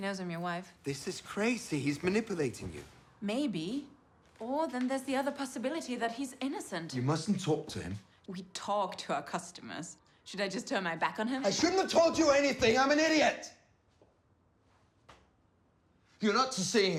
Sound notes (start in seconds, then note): none